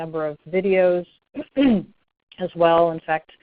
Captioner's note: clears�throat